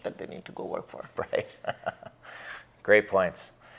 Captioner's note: laughs